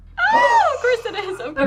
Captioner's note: group gasps